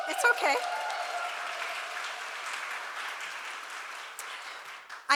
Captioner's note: applause